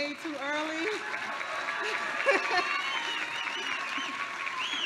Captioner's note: applause